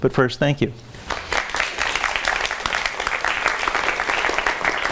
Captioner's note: audience applauds